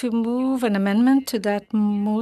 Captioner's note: speaking French